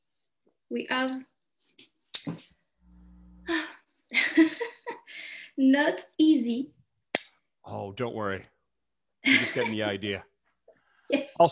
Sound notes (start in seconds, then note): 3.2 sighs; 4.0 laughs